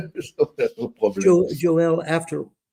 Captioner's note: laughing